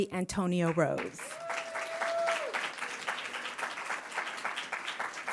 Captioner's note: audience applauding